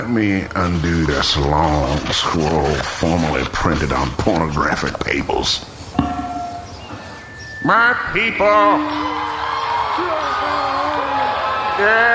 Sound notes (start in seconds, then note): 7.7 microphone hums